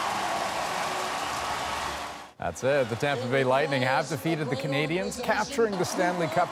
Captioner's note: cheers and Applause